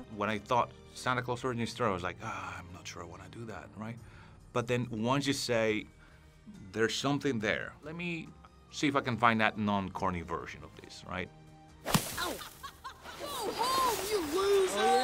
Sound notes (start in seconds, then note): 11.8 snowball thuds; 12.2 laughs